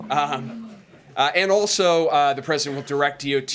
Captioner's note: laughter; laughs